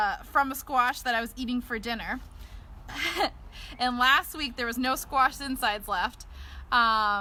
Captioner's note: laughs